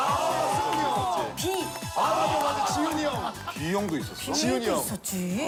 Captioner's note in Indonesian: Tepuk tangan